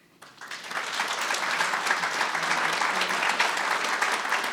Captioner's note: audience applauding